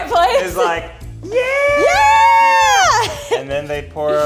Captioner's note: cheering